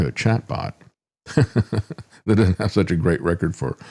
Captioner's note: laughs